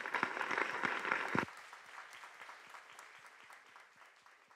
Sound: audience applause

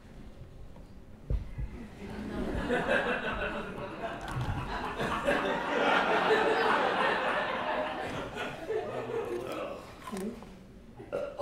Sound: laughter

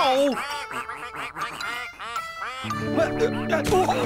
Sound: quacking

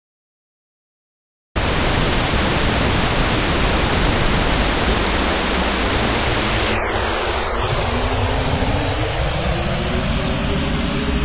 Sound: eerie sound

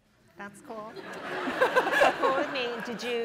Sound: laughter

